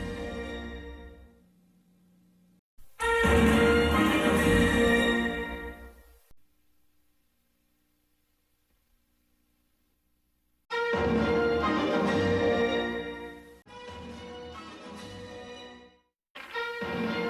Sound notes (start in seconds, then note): 5.7 silence; 10.7 fanfares resume playing